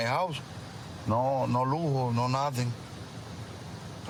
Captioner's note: speaking spanish